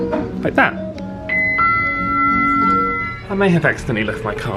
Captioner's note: lift bell rings